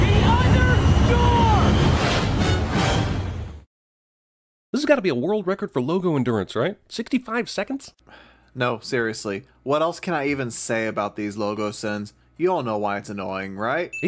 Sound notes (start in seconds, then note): 8.0 sigh